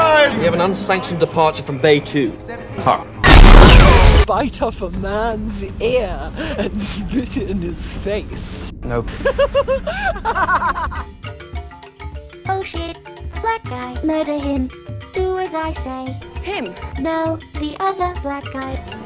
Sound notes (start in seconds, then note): 9.1 maniacal laugh